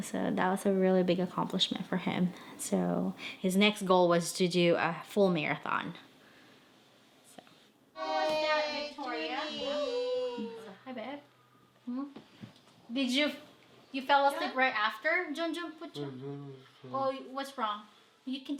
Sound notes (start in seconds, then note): 8.0 children chattering